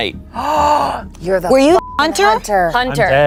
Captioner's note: gasps